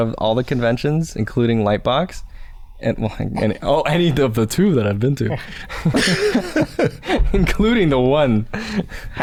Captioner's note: laughter